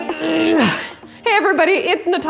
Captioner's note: grunts